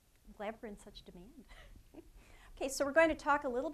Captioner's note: giggling